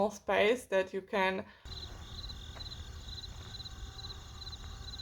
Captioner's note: crickets